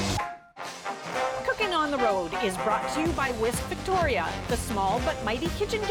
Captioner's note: announcer voice